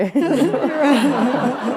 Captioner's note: laughter